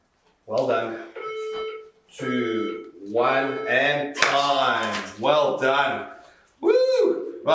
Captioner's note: beeping